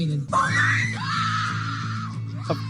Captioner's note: people screaming